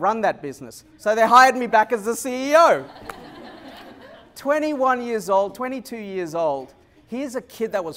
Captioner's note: laughter